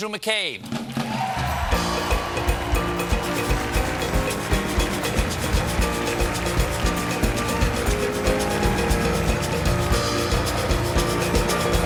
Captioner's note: applause